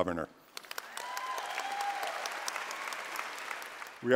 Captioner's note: applause